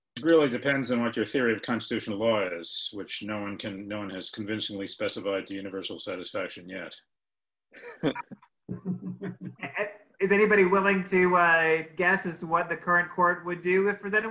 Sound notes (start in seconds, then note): 8.7 laughs